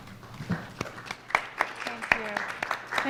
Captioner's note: applause